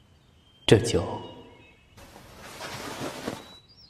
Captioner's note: bird chirping; footsteps